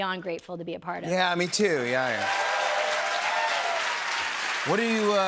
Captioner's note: cheers and applause